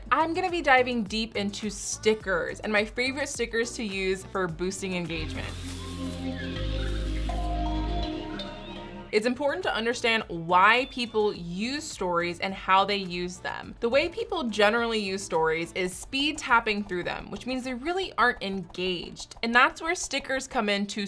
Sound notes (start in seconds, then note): 5.1 birds chirping; 6.5 happy music